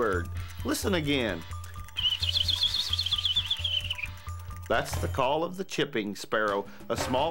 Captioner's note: wildlife call